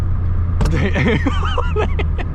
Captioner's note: snap